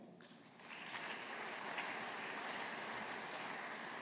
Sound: audience applauding

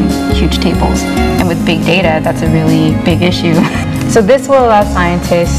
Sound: laughs

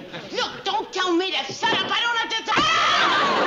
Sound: screams

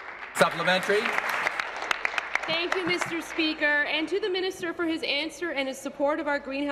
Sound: applause

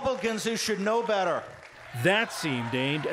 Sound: cheering and applause

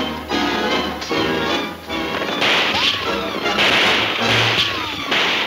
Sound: guns shooting

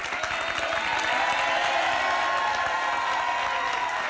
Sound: applause

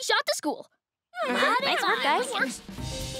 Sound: talking in unison

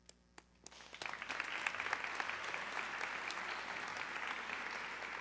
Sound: audience clapping

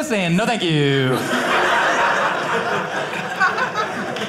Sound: audience laughing

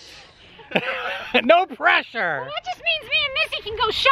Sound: laughs

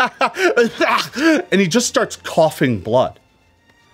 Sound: gags

